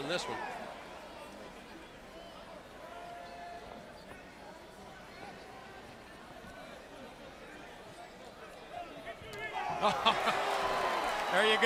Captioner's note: crowd cheering